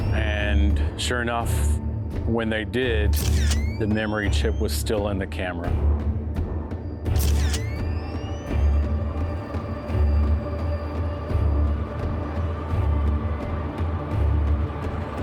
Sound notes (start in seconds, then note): 7.1 camera shutters; 10.9 ominous music intensifies